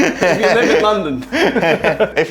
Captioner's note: laughs